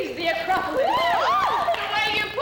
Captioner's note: women cheer